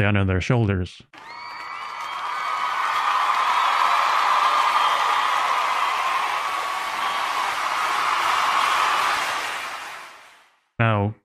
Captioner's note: applause